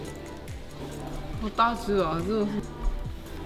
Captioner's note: in Mandarin